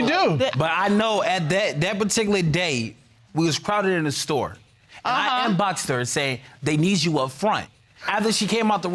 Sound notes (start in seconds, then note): 2.3 stammers